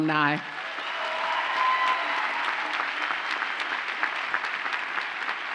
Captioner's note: audience cheers and applauds